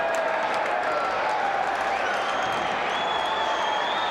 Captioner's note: crowd cheering